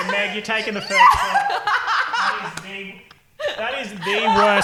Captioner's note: laughing